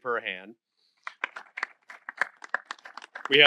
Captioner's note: applause